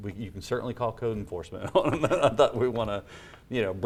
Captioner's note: laughs